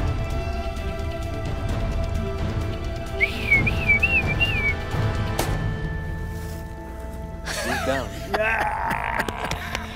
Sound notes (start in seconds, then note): 3.1 whistles; 5.6 gunshot rings; 7.4 laughing